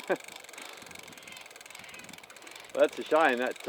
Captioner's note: laughing